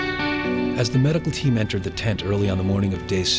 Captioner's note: voiceover